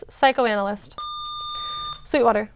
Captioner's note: buzzer